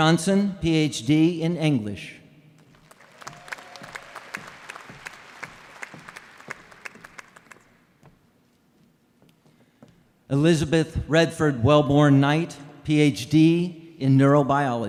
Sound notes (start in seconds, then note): 0.0 applause; 5.4 applause